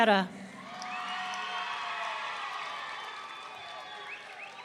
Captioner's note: audience cheering